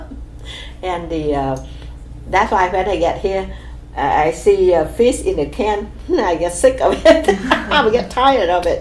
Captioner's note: laughs